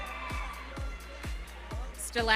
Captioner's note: audience cheering